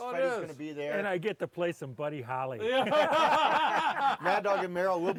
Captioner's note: laughs